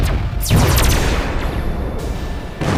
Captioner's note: gunshots